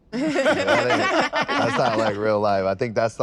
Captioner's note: all laugh